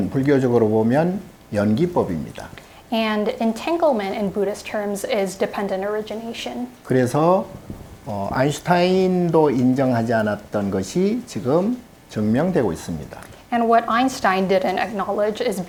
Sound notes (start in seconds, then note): 7.3 speaking Korean